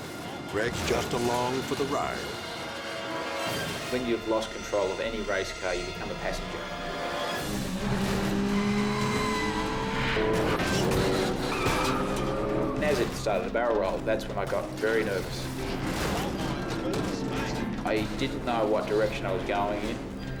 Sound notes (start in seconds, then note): 6.5 tires screeching; 7.4 engine rumbling